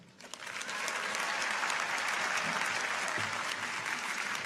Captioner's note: audience applauds